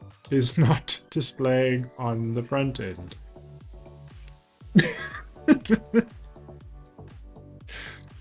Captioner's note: laughing